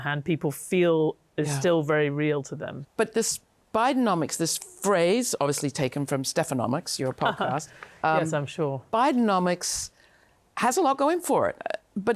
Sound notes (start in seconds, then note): 7.2 chuckles